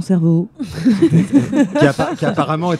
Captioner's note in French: rires